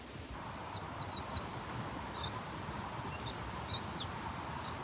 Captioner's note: birds chirping